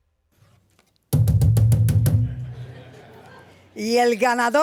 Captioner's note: banging on stand; speaking spanish